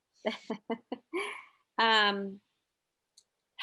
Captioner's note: laughing